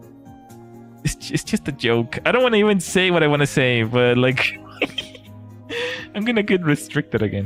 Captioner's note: laughter